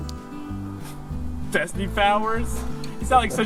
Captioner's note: chuckles; stoke laughs